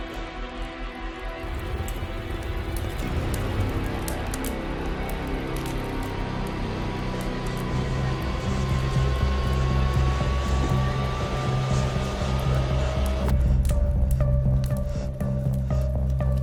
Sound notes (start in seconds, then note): 0.7 suspenseful music; 1.8 fire roaring; 13.5 suspenseful music